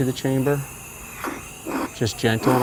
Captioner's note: tool scraping